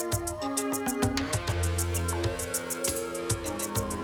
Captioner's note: police siren wails